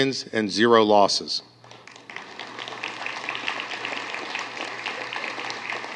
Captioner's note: applause